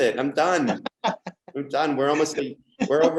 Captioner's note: laughs